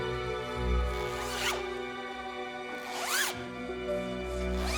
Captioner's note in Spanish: sonido al cerrar el zipper